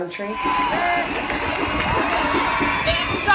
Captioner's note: applause